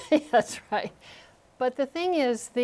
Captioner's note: laughter